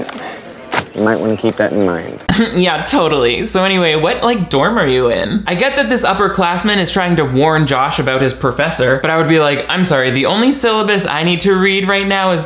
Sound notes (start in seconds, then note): 2.3 chuckles